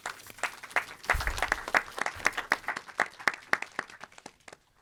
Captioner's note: audience applauding